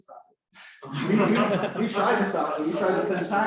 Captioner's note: laughter